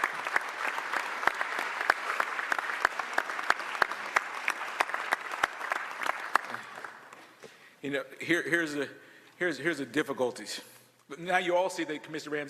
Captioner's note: cheers and applause